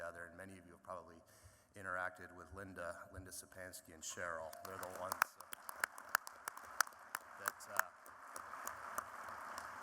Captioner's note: applause